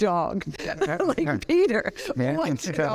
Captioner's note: laughing